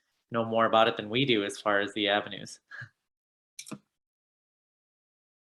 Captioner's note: chuckles